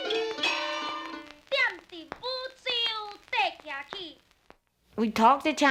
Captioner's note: speaking Taiwanese